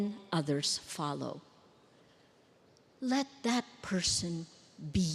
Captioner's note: none